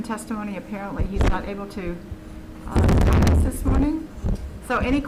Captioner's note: audio glitches